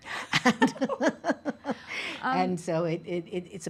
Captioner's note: laughing